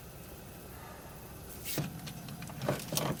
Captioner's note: catching my breath